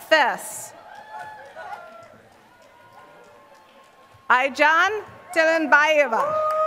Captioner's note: applause